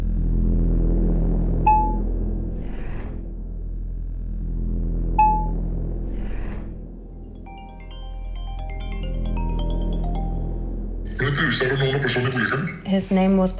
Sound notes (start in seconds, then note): 0.7 ominous music; 7.4 cell phone ringing; 11.3 A man speaks Spanish, speaks English